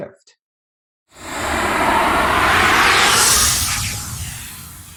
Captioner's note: air whooshing